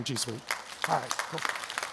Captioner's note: clapping